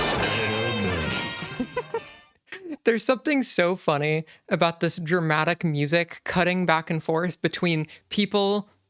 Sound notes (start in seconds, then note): 1.4 laughing